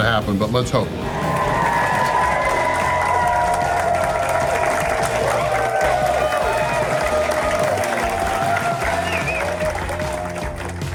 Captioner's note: crowd applause and cheering